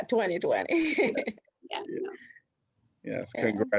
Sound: laughter

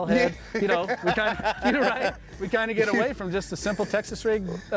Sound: both laughing

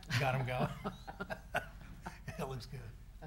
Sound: people laughing

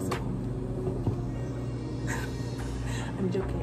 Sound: giggles

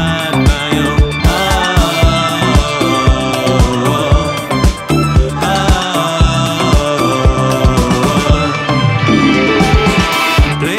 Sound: vocalizing

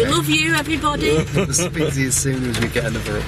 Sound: chuckling

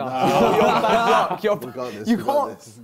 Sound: both laughs

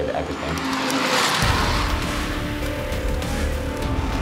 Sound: engine roaring

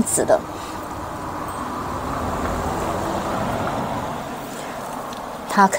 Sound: the noise of cars passing by 😅

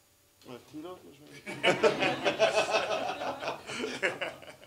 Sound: laughter

